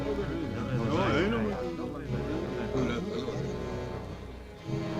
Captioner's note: Arobi speaking in foreign language; villagers chattering